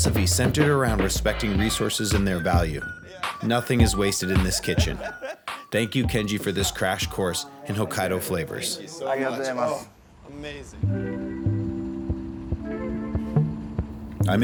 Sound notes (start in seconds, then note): 5.2 people laughing; 9.4 man speaks Japanese; 10.8 upbeat ambient music